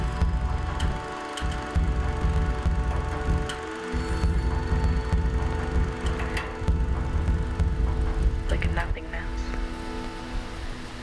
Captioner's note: wind and rustling leaves